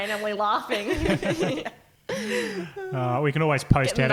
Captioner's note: laughing